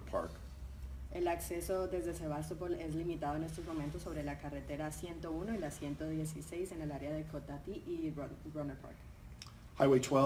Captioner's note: speaking in Spanish